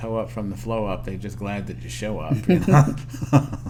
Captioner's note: laughter